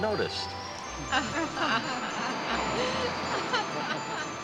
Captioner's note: all chuckling